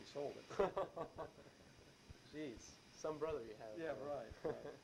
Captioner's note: both laugh; chuckles